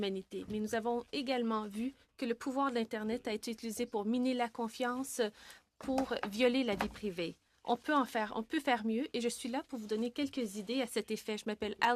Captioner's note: speaking French